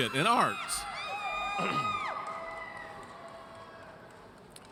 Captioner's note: audience cheers